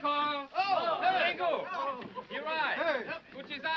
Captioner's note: men shouting